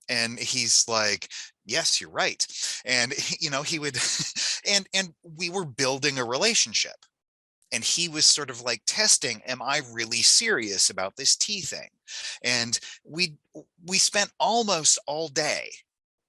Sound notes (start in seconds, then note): 2.4 laughing